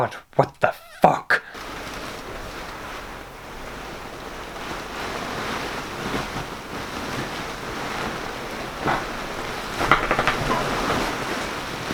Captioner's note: rustling Plastic Foliage